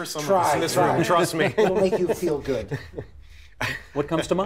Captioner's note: laughter